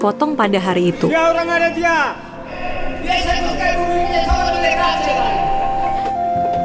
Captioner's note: chanting